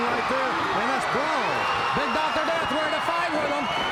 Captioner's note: crowd cheering